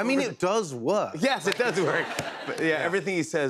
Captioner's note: laughter